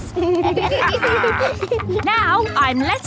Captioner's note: kids and captain dog laughing